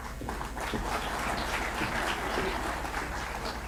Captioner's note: applause